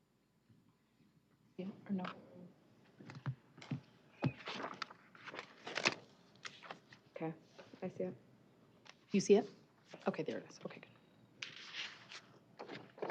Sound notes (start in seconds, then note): none